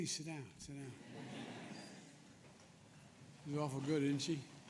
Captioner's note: laughter